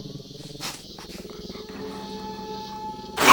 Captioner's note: sniffing; growls